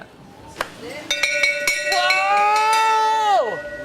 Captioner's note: bell ringing loudly